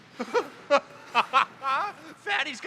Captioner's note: Hand laughs